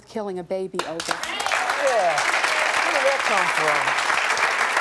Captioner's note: audience clapping